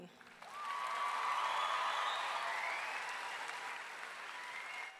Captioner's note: audience clapping and cheering